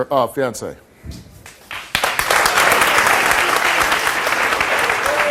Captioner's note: audience applauds